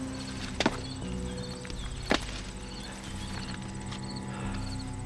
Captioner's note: hatchets thudding